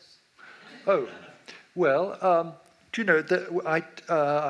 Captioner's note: audience laughs